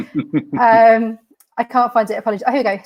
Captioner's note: laughing